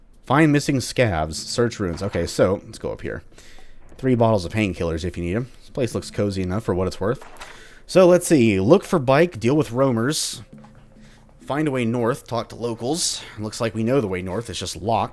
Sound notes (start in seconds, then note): 1.9 journal closes; 6.0 journal opens